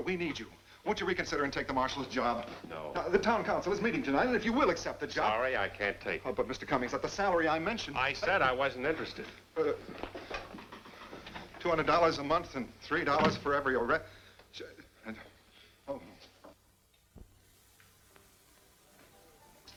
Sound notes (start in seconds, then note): 13.1 door closes; 15.1 stammers